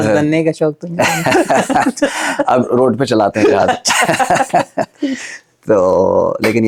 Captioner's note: laughs